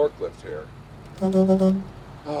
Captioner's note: horn blaring